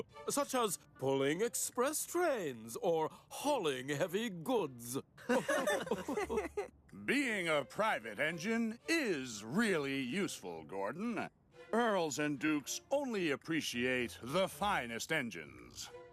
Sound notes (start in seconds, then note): 5.3 engines Laugh